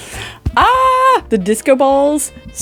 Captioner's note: happy screaming